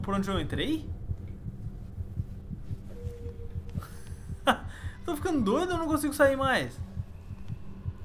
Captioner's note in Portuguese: risos